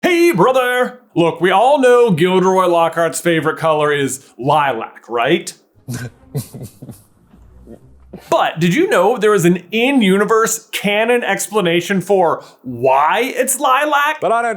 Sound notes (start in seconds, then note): 5.8 smarmy laugh